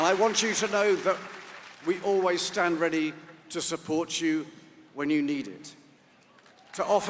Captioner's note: applause